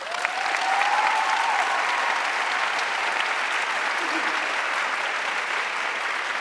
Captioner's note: audience cheering and applauding